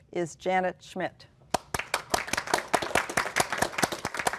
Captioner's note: applause